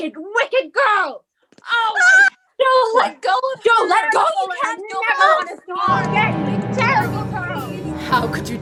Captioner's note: Various sounds of fighting, "Jo, stop!" etc